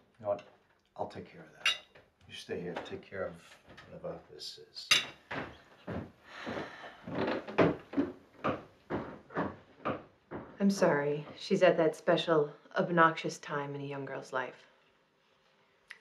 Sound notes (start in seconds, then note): 6.3 Karen sighs; 7.9 footsteps thudding